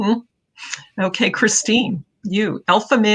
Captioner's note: laughing